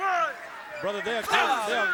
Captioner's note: crowd chatter